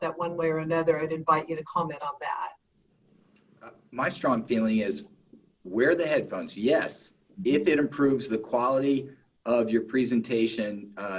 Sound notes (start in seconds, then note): none